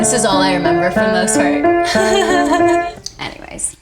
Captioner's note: laughs